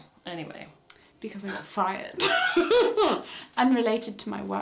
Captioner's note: laughs